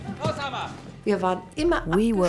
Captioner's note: speaks in foreign language